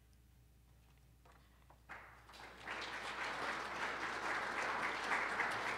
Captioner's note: audience applauds